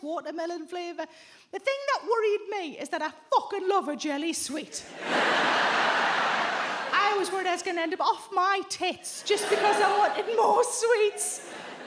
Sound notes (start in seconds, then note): 4.9 audience laughs